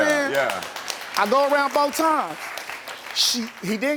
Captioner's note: audience applauds